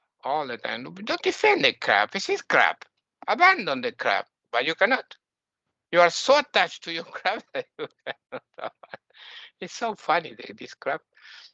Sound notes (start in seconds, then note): 7.0 laughing